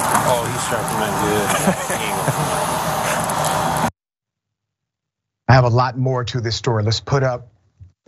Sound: laugh

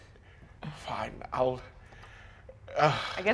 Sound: sighs

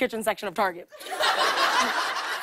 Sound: laughter

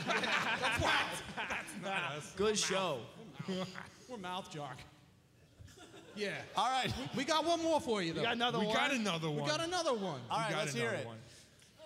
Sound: band laughing

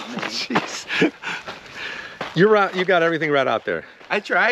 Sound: chuckles

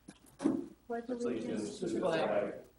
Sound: all reciting Pledge

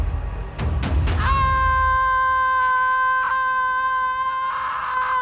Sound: screaming

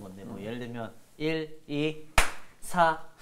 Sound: clap

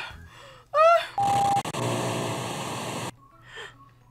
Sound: moans; static crackles

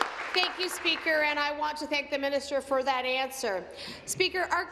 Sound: applause

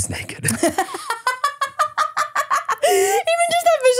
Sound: laughs

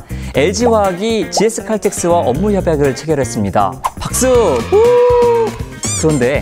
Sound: clapping

